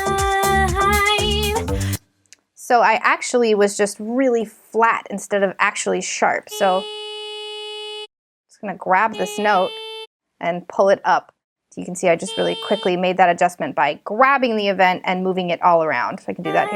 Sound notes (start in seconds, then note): 6.9 electronic buzzing